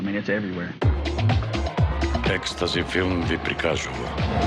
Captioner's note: man speaks in foreign language